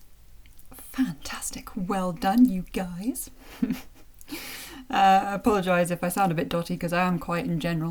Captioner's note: chuckles